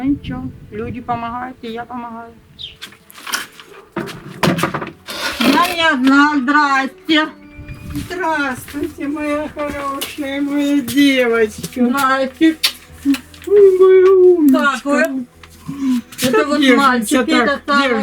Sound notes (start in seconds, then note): 13.0 kissing